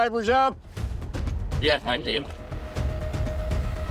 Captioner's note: radio transmission